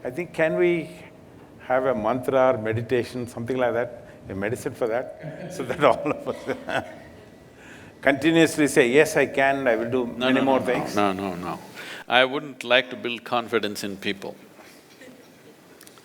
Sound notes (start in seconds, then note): 5.3 Sadhguru Laughs